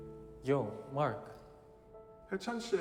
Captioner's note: in English